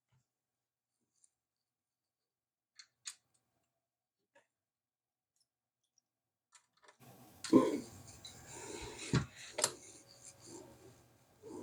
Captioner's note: silence